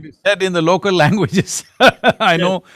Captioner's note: laughs